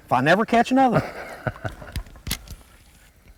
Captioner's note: laughter